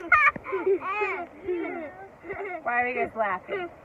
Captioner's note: kids laughing